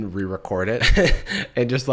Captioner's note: chuckles